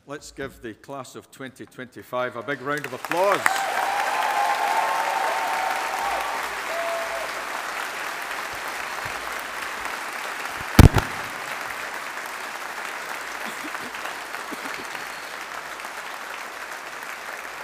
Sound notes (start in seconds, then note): 3.5 audience applauding